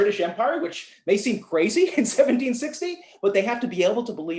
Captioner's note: laughter